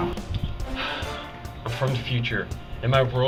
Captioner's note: Reese sighs